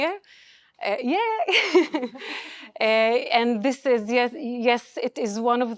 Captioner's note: laughs